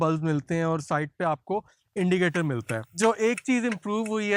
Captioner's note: blinker